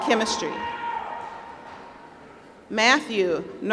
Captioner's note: applause